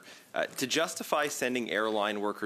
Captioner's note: speaking in French